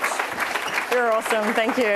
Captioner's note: attendees laughing